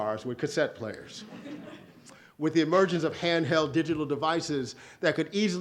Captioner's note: audience laughs